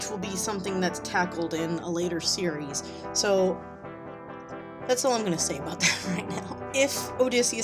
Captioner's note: giggles